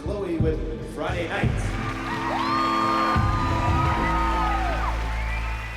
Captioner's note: applause and cheering